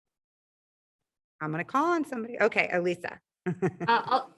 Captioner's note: laughs